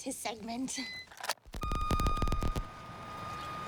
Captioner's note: feedback humming